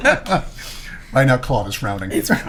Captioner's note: laughing